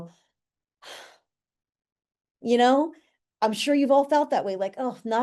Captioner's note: exhaling